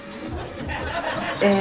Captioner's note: laughter